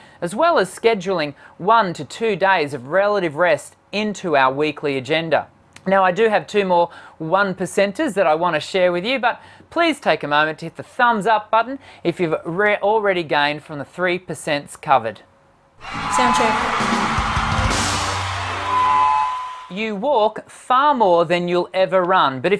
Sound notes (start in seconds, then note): 15.8 soundcheck effect